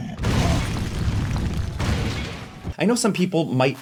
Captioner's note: Hulk grunts; metal crashing